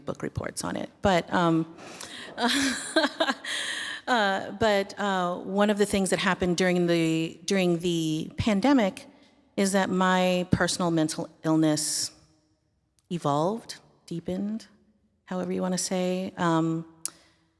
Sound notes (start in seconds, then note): 2.0 laughter from audience